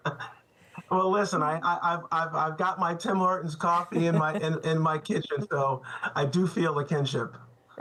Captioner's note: laughter